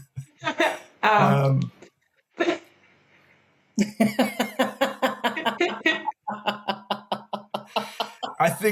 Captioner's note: all chuckle, then laugh